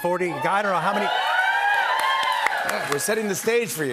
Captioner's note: cheers and applause